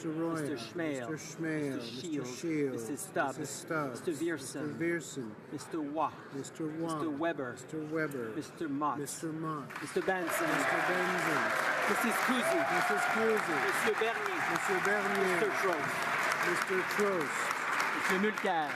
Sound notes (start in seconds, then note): 2.3 some Applause